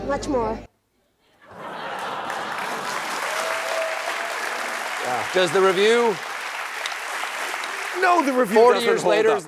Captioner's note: applause